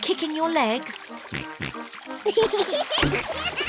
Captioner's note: oinks; both giggle